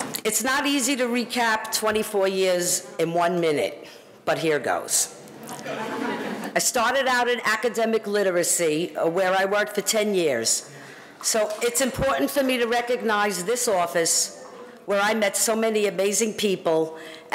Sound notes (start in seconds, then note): 5.5 audience laughing